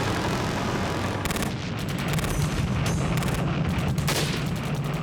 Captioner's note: gunfire